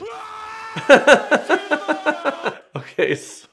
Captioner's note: laughing